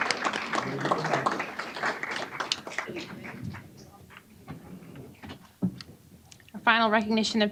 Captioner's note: applause